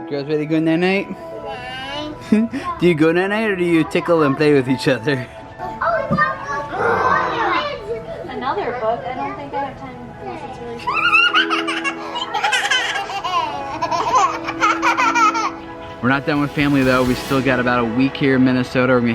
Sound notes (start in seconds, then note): 6.7 boy growling; 10.8 girls squealing